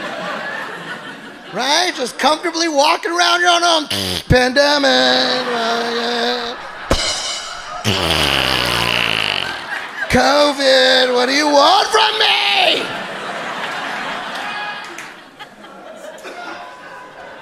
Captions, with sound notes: Right, just comfortably walking around your own home (imitates fart), pandemic. (cymbal clanks) (imitates fart) COVID, what do you want from me?